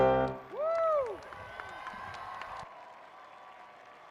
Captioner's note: applauding